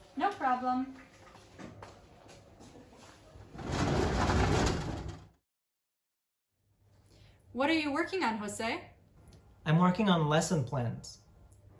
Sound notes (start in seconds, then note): 3.5 door closes